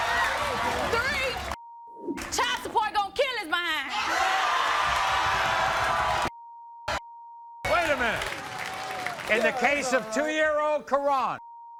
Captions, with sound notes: Three (beep) child support gon kill his behind. (audience cheers) (beep) - Wait a minute - yeah, it's all right. - In the case of two year old Coran,